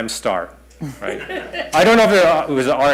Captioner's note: laughter